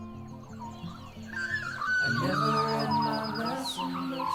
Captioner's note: birds chirping